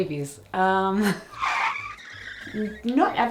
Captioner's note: tires screeching